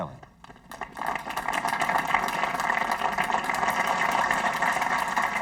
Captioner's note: audience applauding